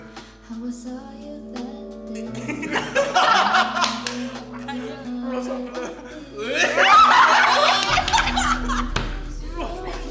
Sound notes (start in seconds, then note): 0.9 cringing; 6.5 everyone absolutely losing it